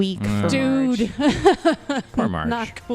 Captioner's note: laughs